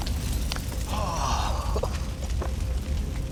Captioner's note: sighs